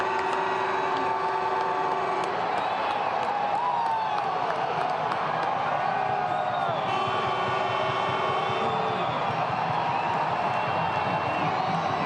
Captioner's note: applause